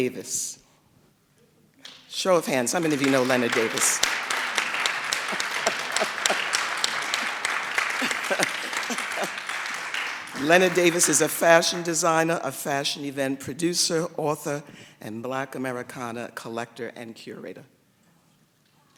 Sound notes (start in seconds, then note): 10.7 applause; 11.2 laughs